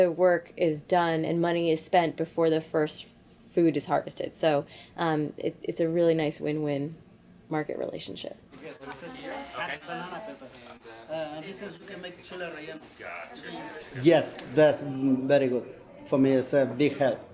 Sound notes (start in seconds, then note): 8.6 speaking Spanish